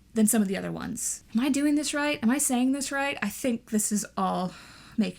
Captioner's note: sighs